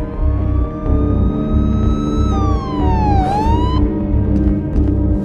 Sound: sirens

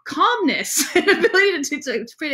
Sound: laughs

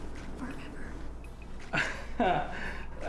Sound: whispering; laughs; in robotic voice

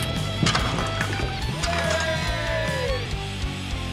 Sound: crash; cheering

